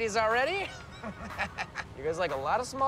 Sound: chuckles

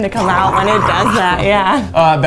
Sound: gurgling sounds

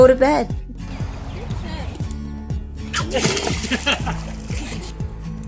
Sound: laughing

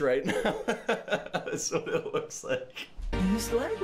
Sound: laughs

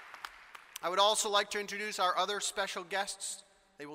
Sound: applause

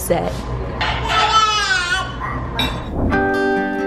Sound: baby babbling; relaxing music

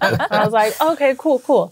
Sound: laughing

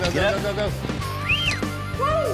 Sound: whistling

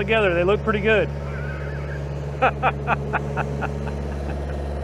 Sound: laughs

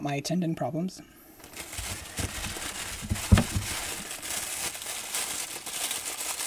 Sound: paper crackling

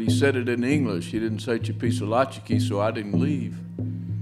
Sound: foreign language spoken

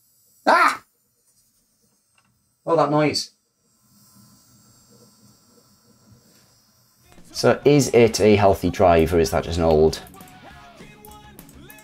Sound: sound of drive failing

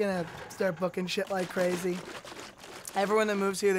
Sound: juice slooshing

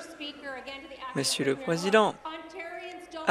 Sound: applause

